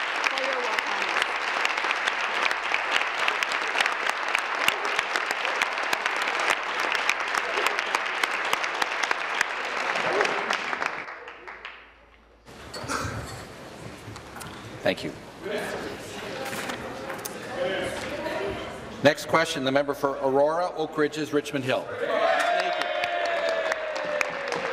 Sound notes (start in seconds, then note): 0.1 applause; 5.2 continued applause